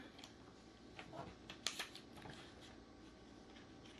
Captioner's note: paper ruffling